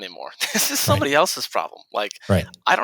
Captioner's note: chuckles